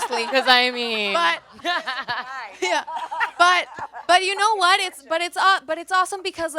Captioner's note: laughs